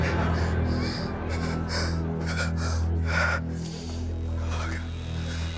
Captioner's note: shaky breathing; gasping